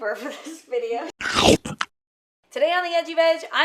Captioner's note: mouth slobbering